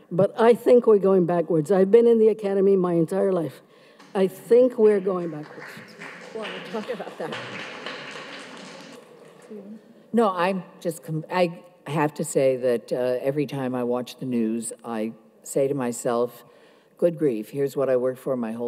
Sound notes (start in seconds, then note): 6.0 audience applauds